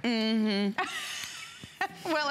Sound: laughter

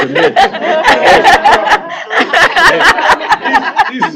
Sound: laughing

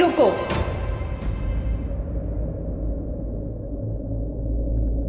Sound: wind blowing silently

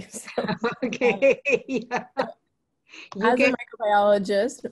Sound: laughs

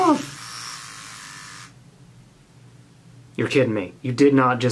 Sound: razor buzzing

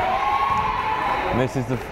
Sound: crowd cheering

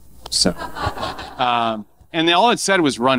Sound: audience laughing

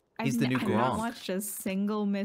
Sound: none

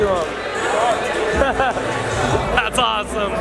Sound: laughing

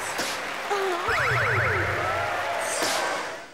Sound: cheering

